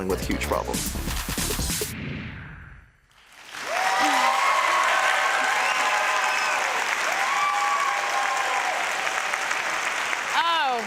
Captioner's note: applause and cheering